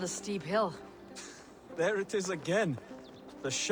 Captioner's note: laugh